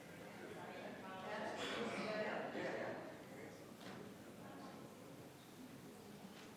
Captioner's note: attendees chattering continues